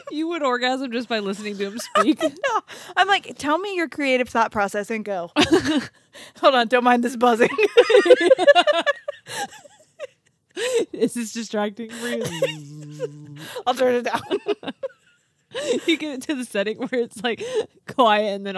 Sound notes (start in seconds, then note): 1.1 laughs; 7.5 group laughs